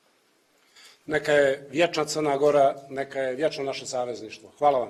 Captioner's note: speaks in Montenegrin